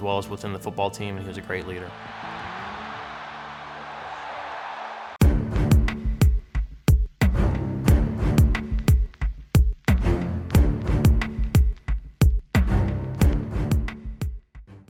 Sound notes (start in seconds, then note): 4.1 crowd cheering; 5.2 triumphant music